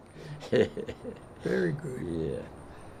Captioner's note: laughs